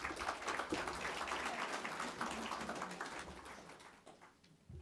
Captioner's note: audience clapping